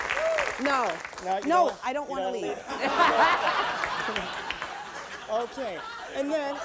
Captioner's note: laughter